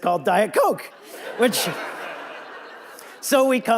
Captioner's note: audience laughing